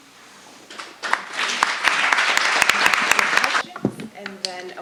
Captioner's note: audience applause